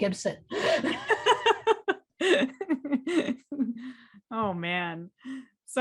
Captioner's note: laughing; chuckles